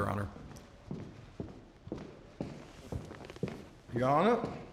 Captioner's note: footsteps